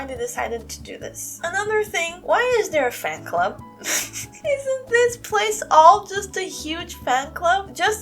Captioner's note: chuckle